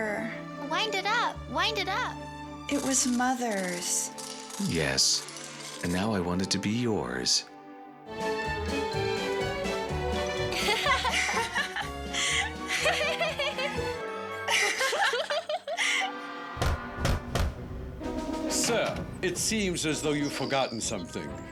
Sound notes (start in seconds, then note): 10.4 belle and clarice laughing; 16.6 knock on door